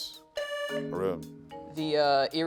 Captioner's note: buzzer sounding